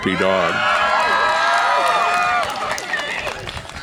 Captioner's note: audience applause and cheer